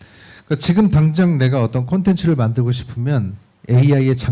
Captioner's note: speaking korean